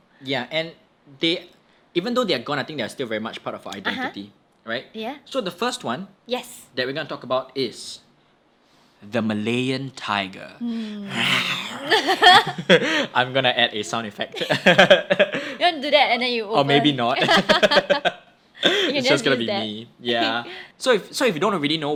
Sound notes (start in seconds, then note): 11.0 laughs; 11.0 attempts to roar; 14.5 both laugh